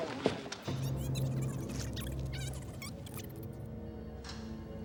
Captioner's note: high-pitched tape scratching; suspenseful music